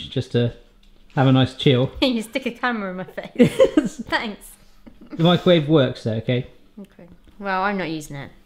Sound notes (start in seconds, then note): 4.8 laughing